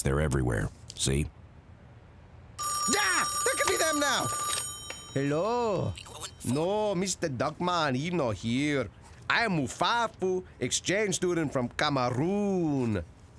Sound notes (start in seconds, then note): 2.6 phone ringing; 4.3 with foreign accent